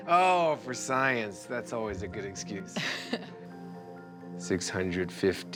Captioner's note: laughs